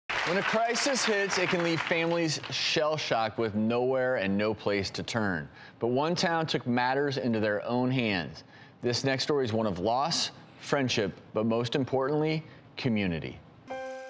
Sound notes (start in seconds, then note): 0.0 applauding; 13.7 somber music